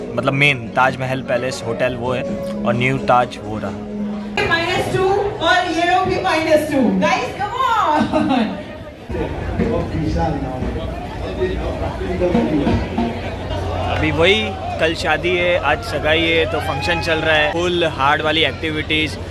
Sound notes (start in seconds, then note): 4.8 wedding functions going on